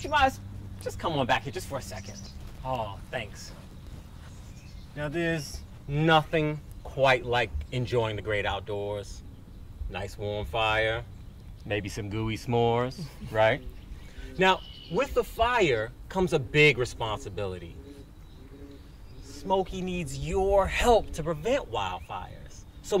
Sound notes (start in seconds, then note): 12.9 parent laughs